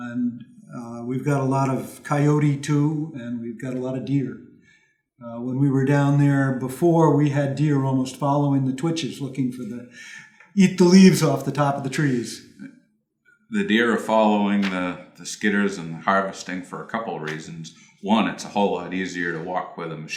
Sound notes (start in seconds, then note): 13.7 voiceover